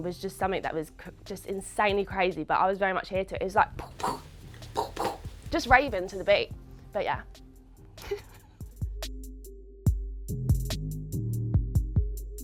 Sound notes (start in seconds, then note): 3.7 beatboxing; 8.0 chuckles; 8.7 smooth hiphop music